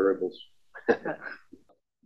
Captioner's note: laugh